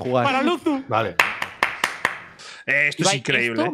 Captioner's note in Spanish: aplaude